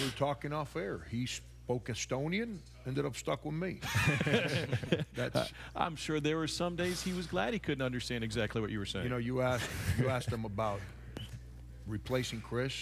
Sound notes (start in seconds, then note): 3.8 all laughing